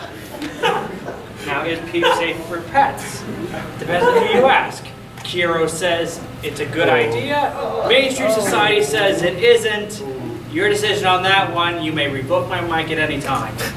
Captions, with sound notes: Now is Peef safe for pets? Depends on who you ask. - Kero says it's a good idea. (audience groaning) - Mainstream society says it isn't. Your decision on that one you may revoke my mic at any time.